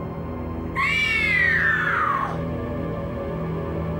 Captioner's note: Terri screaming